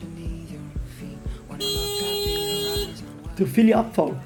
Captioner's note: aggressive honking